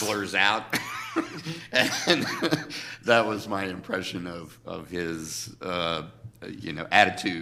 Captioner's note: laughs